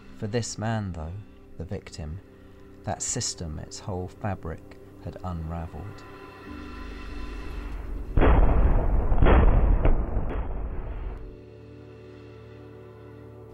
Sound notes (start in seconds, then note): 8.1 shots firing